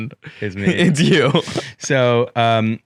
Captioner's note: laughs